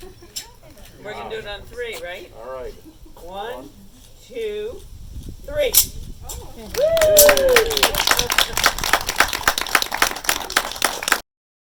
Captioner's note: applause